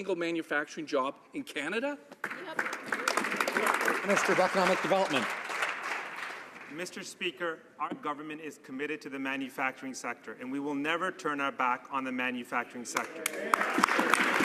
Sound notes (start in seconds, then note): 6.1 some Applause